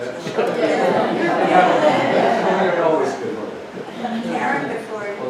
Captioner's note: indistinct conversation